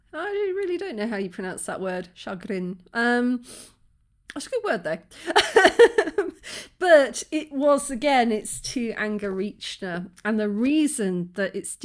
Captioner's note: sniff